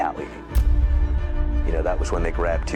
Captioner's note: blast rumbles